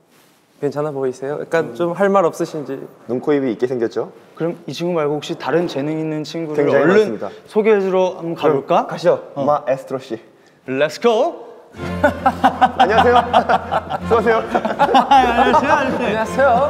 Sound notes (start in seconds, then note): 11.9 friendly laughter